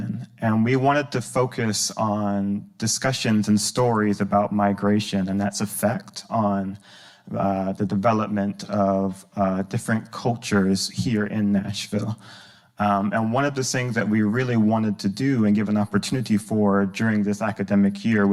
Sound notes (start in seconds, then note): none